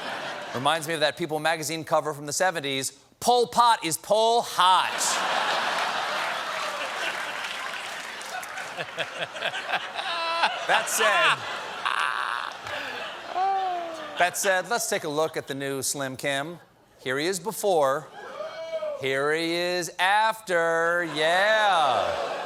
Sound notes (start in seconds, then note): 0.0 laughter; 4.8 laughter; 5.6 applause